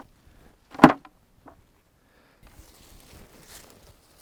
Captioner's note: leaves hitting bucket